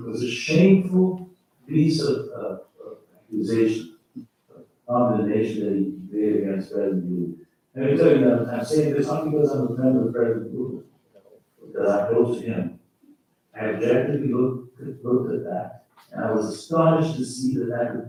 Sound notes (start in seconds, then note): 5.1 faintly speaking